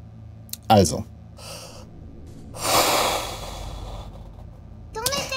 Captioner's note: taks deep breathe